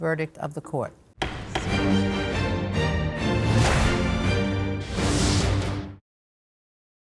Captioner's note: gavel slams; upbeat music